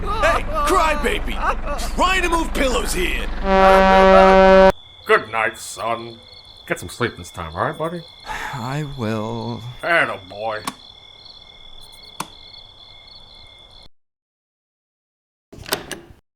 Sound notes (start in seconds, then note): 3.3 horn blasting; 8.2 sigh